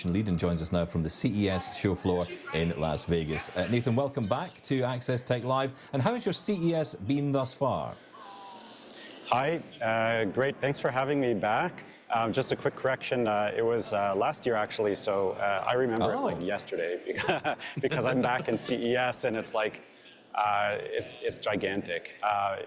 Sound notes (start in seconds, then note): 17.0 chuckles